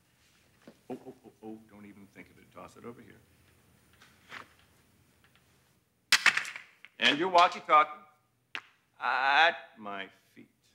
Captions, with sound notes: Oh, oh, oh, oh, don't even think of it. Toss it over here. (gun clatters) And your walkie-talkie. Ah, at my feet.